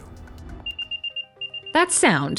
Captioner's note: beeping